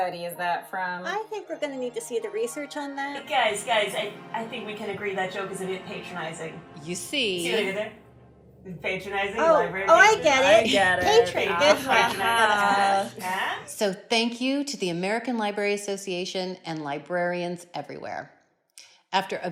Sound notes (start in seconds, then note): 11.4 ALL laugh